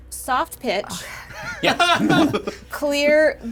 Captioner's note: players laughing